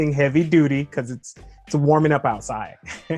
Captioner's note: chuckles